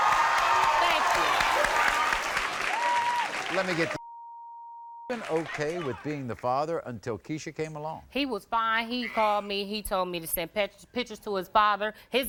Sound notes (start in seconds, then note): 4.0 beep